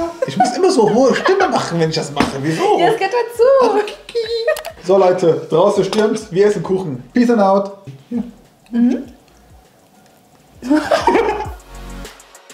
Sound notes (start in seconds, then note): 3.3 laughing; 10.6 both laughing